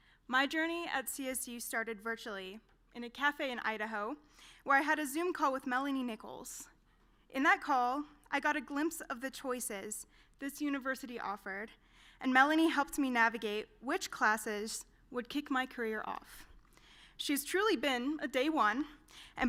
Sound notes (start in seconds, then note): none